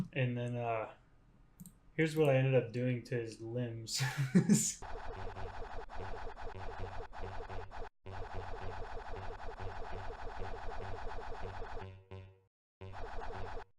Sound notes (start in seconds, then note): 3.9 ugly laugh; 4.8 game sounds